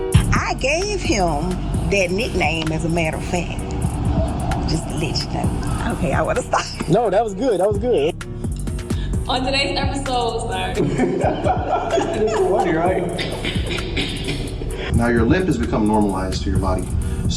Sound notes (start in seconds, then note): 9.9 laughing; 13.3 cackling